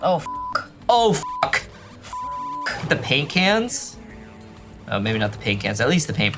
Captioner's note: beep